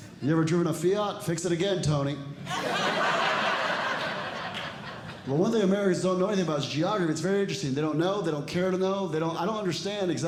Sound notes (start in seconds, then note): 2.4 audience Laughing